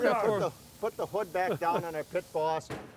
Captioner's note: laughs